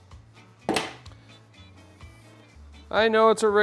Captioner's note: tool clunking on table